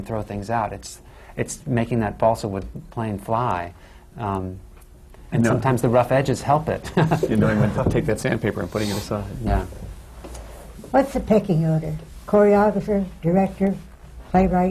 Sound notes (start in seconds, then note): 6.9 laughs